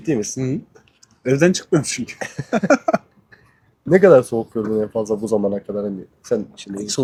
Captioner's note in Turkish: kahkaha